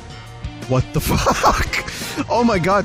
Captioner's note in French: rire